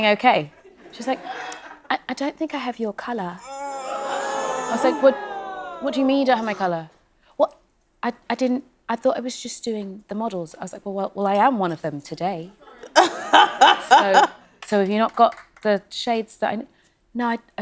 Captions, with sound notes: She's like, "I-- I don't think I have your color." [audience groaning] I said, "What-- what do you mean, "you don't have my color?" "Well, I-I didn't-- I thought I was just doing the models." I was like, "Well, I am one of them today." [laughing] So... so you've not got the shades that I-- "No, I-- I don't have them."